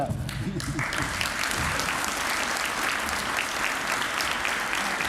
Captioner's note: applause